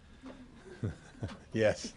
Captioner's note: laughter